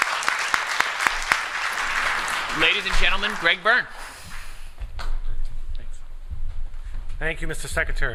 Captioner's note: applause